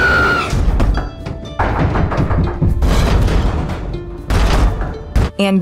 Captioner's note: knocking sounds at different volumes coming from all over the place